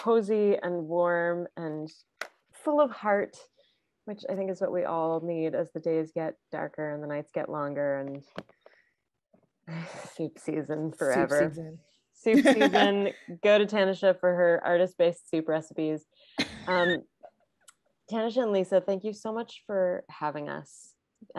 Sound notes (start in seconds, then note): 16.4 laughing